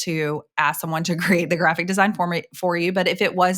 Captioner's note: chuckling